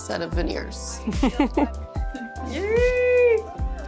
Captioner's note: chuckles